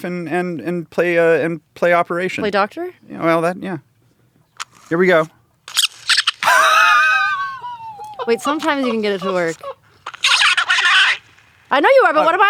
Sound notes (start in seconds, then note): 6.4 inaudible toy noise; 6.4 laughs